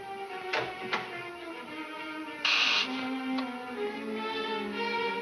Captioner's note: intercom buzzes